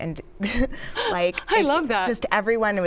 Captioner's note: chuckles